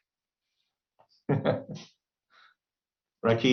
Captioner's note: laughs